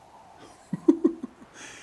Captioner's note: laughs